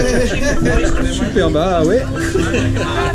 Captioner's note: laughs